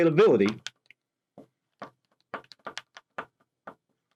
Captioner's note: pen tapping